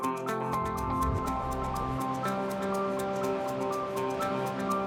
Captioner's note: water gushing